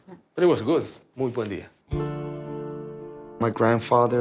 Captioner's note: speaking Spanish